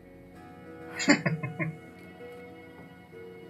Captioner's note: chuckling